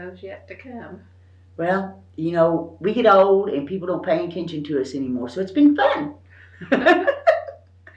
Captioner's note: laughs